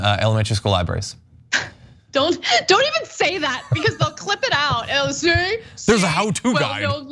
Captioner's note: laugh